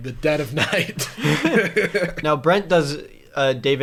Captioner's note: chuckle